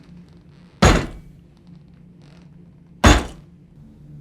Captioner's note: desk thudding